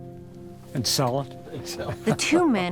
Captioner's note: laughs